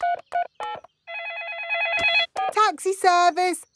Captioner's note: phone ringing; dialing